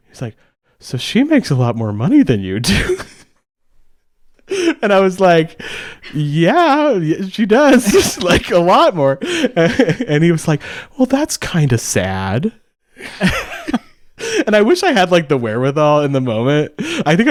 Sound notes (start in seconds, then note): 13.0 both laugh